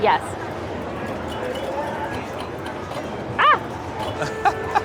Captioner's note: machine pinging; laughs